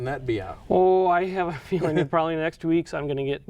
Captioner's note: laughs